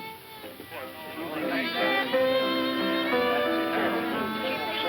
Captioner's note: bar patrons chattering